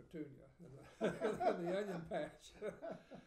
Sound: laughing

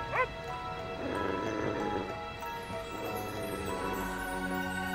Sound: dog growling

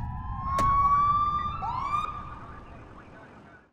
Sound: police Siren

